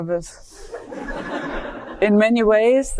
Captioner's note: audience laughing